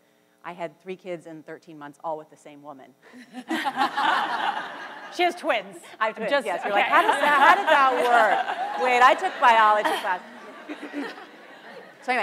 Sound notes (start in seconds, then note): 3.4 panel and audience laughs; 10.4 audience laughs